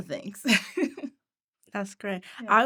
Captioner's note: laughing